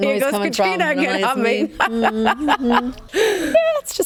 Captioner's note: laughs